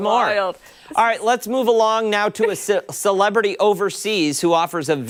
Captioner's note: laughter